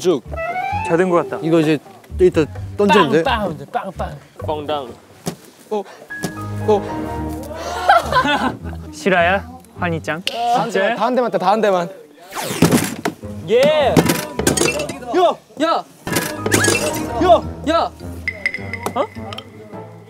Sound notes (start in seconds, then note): 7.6 the loudest laugh